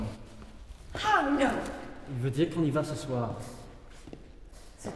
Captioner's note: Anatole speaks in French